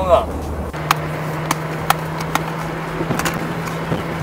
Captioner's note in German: Klappern